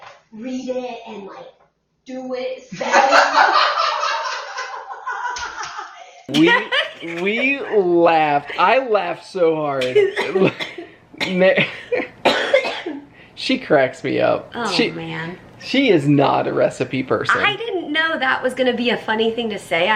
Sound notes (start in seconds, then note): 2.8 both laughing; 10.1 coughing